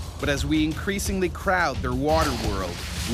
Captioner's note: voiceover